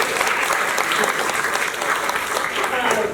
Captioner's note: applause